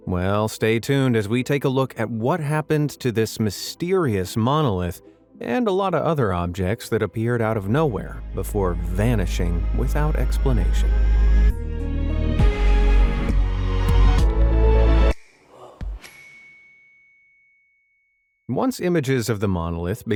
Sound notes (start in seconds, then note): 11.5 light suspenseful music; 16.0 bell dings